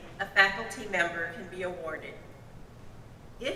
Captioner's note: none